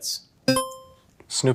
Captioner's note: buzzer chimes